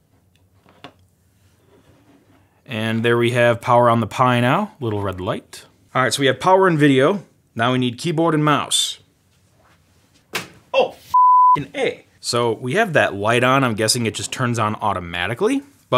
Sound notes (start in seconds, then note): 10.3 thump; 11.1 beep